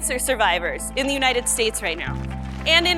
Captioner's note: applause